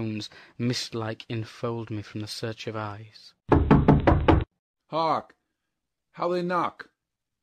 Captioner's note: knocking